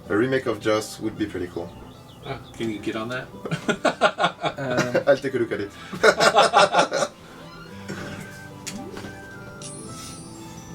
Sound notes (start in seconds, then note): 3.4 laughs; 5.8 both laugh